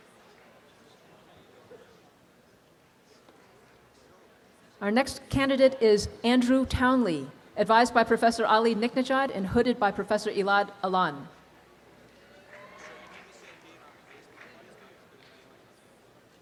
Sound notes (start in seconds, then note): 12.4 students cheer and applaud